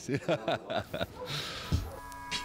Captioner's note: laughs